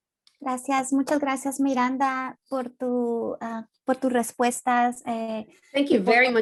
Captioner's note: speaking in Spanish